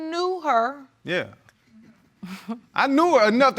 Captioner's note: chuckles